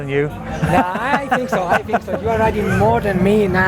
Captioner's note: laughs